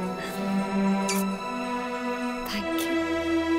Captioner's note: Kisses